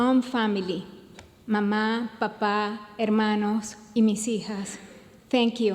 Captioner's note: speaks in foreign language